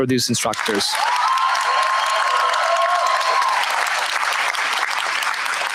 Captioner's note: cheers, applause